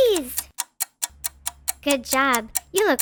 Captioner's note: clock ticking